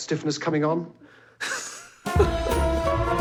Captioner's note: laughing